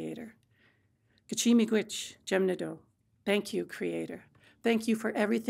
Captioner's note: speaking Anishinaabemowin